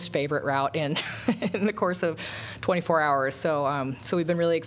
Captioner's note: laughter